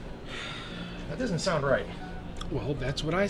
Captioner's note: sighs